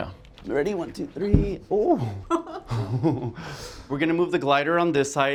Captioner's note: laugh